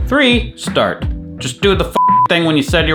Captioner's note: beep